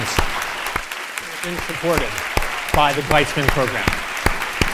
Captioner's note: audience applauding